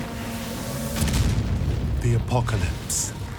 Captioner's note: explosion